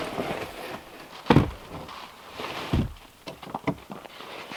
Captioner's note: log thumping